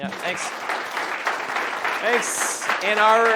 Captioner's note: audience applauds